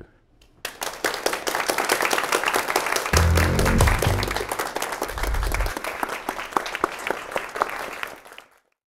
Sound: applause

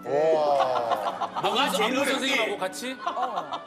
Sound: ahahahahahaha

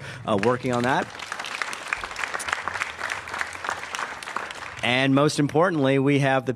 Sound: applause

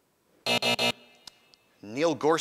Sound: buzz

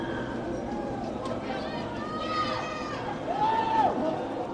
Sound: shouting and screaming

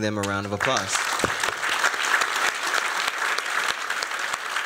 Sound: applause

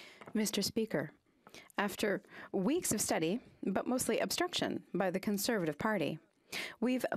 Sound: speaking French

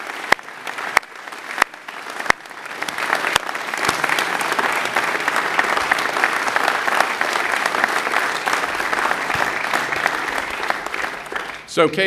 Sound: applause

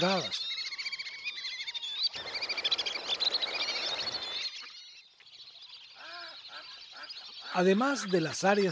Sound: birds chirps and calls, whistling ducks

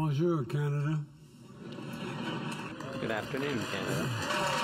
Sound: applause

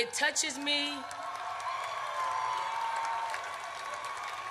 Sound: audience cheers

